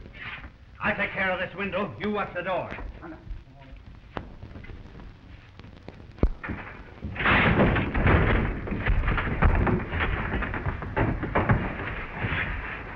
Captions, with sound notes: - I'll take care of this window. You watch the door. (ceiling clattering)